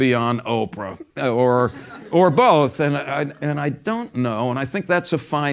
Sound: laugh

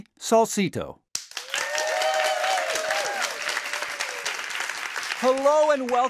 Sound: applause

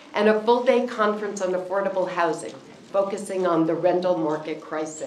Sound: none

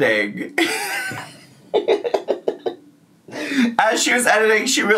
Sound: laughing

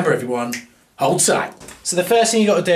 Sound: snaps

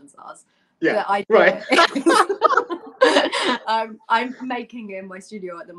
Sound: laughter

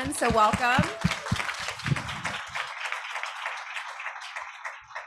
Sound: audience applauds

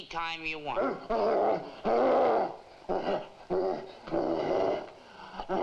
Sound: gorilla grunting aggressively

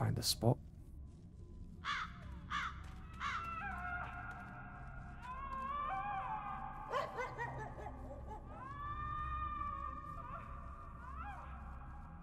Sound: cawing

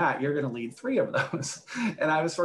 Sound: laughs

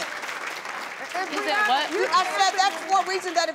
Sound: clapping

